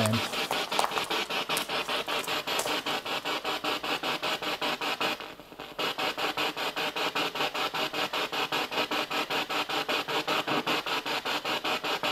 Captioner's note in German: Noise of the spiritbox in the background